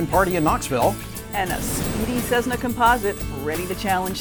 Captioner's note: voiceover